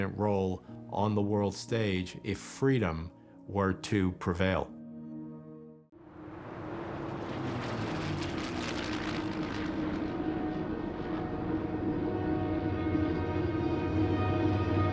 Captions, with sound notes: on the world stage if freedom were to prevail. [airplane engines humming] [soft, dramatic music plays]